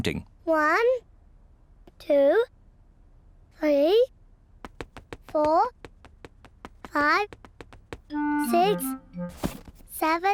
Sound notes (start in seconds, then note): none